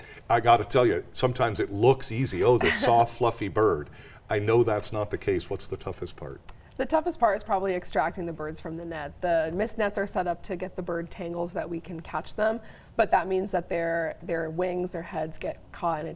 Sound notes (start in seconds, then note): 2.5 chuckles